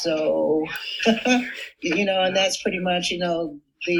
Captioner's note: chuckles